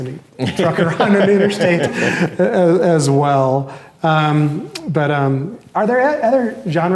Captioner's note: laughs